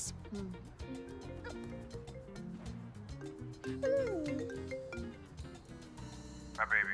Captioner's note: phone Ringing